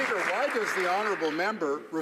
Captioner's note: some Applause